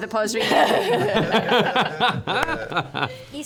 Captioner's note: laughter